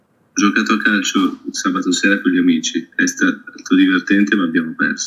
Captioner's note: non-english speech